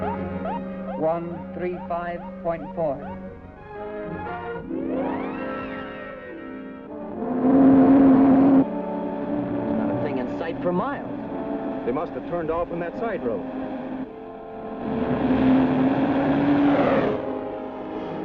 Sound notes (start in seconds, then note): 7.3 vehicle whooshes; 14.8 vehicle whooshes